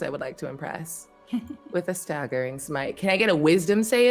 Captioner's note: chuckles